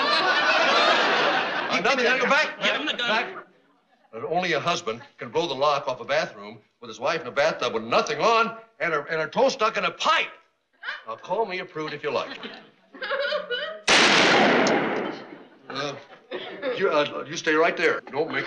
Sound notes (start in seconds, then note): 13.8 gunshot